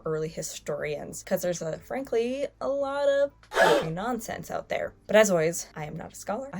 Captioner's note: gasps